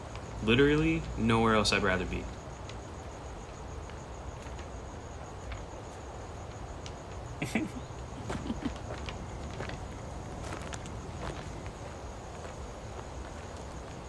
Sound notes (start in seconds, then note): 4.2 insects chirping; 7.4 both chuckle; 10.8 footsteps crunching